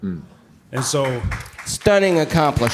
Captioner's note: applause